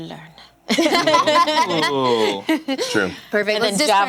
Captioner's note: laughter